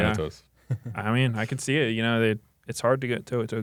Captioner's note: laughs